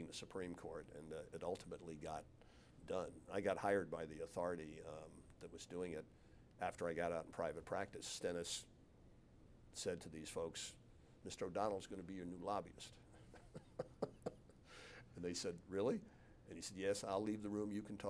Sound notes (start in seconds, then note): 13.1 laughs